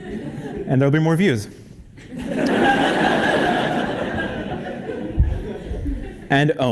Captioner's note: laugh